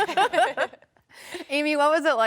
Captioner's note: laughs; chuckles